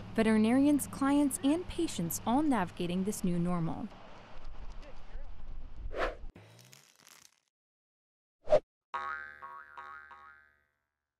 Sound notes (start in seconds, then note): 6.5 rustling; 9.0 boinging